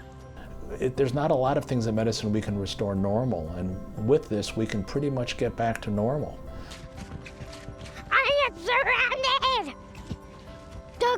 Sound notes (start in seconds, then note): 6.9 running noise